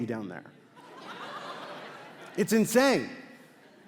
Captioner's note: crowd laughs